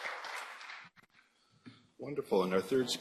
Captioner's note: applause